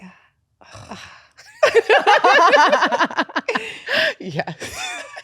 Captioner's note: both laughing